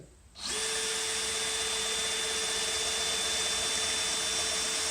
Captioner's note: drill noises